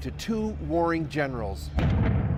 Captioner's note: bombing